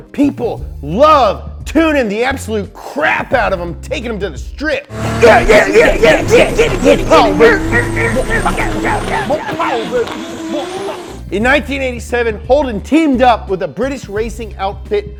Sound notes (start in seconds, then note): 4.9 incoherent cheering